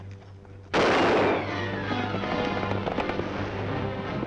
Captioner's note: gun firing; upbeat dramatic music